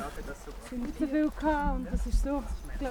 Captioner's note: indistinct chatter